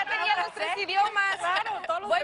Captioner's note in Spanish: Risas